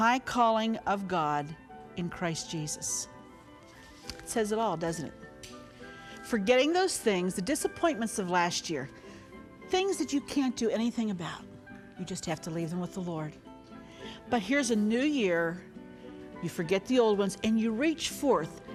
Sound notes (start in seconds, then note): none